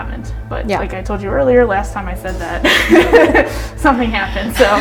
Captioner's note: laughs